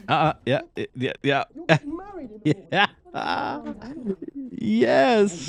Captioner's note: laughing